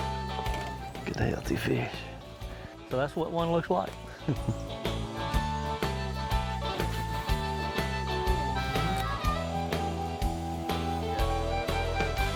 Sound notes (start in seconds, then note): 4.2 chuckling; 4.5 upbeat country rock music